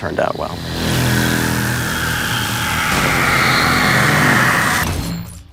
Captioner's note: electricity buzzing